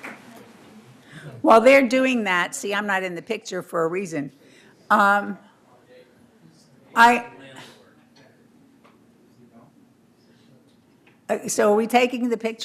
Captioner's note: applause